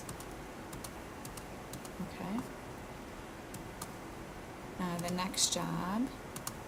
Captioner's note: computer mouse clicking